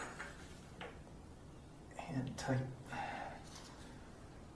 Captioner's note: none